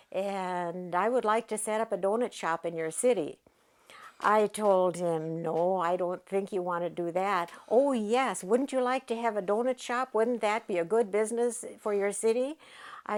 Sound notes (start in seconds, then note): none